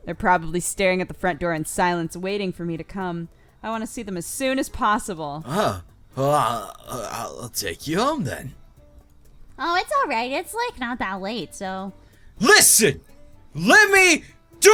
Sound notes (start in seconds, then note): 6.2 cry; 13.6 cry